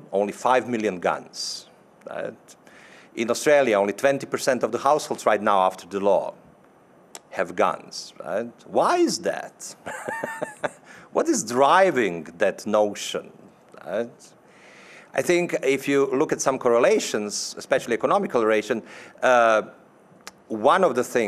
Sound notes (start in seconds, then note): 9.8 laughing